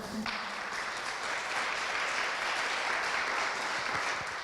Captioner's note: applause